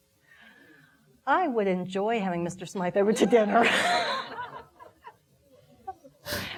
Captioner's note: laughing